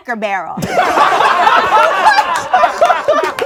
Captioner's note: laughing